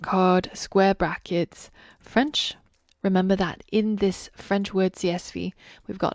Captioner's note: French